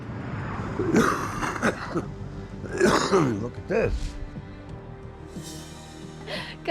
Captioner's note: coughing